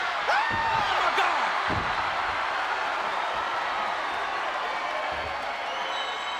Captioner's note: Paul screaming